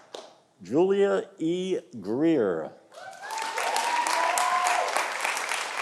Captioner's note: audience applauding